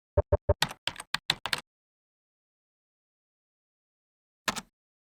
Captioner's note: beeping, keyboard clacking